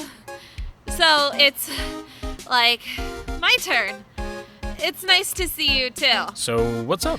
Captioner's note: huff